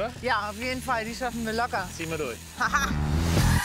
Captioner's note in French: haha